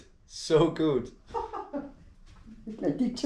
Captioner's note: laughs